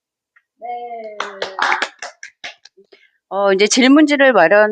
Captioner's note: applause